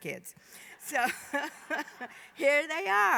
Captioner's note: laughter